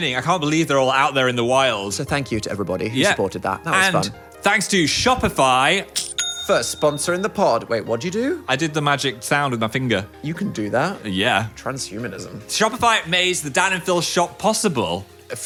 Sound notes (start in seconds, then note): 6.0 cash register dings